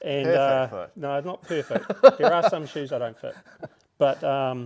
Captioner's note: laughing